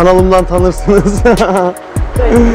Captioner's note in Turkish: Gülüşmeler